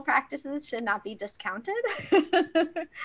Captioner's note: laughs